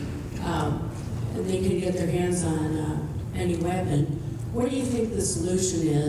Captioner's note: voiceover